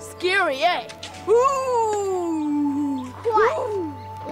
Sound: boy howls

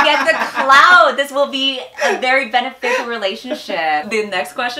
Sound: laughs

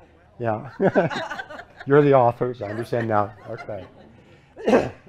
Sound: laughter

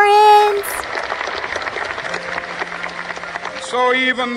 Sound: audience applauding

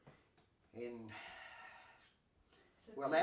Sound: sighing

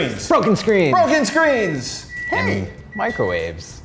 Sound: beeping

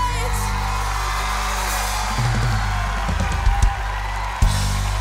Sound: audience cheering

